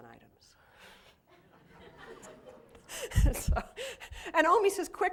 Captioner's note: laughter